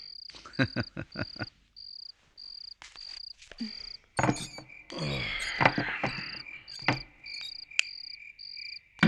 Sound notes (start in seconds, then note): 4.8 sighs